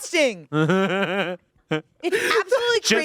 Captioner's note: everyone laughs